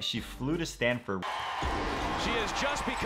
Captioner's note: crowd cheering